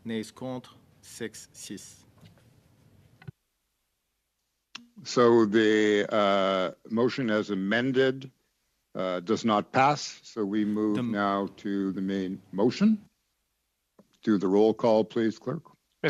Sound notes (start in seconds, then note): 5.0 speaking French